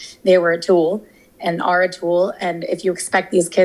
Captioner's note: none